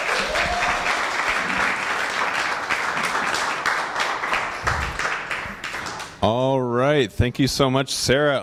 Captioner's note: clapping